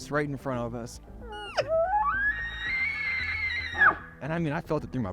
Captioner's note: elk calls